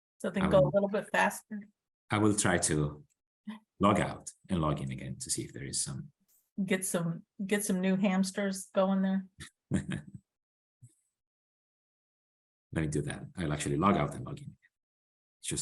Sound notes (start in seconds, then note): 9.7 laughs